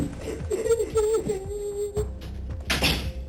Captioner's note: cries